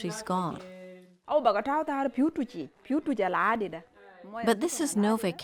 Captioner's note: speaking in Sudanese language